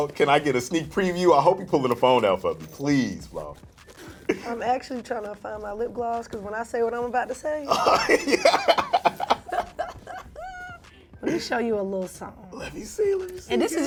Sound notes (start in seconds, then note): 7.7 laughter